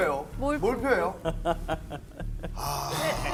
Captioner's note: hahaha